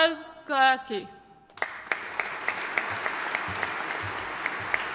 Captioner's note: audience applauding